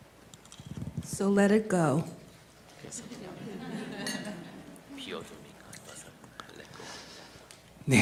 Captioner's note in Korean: 청중 웃음